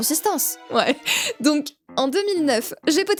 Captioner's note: laugh